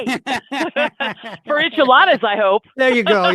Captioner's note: laughs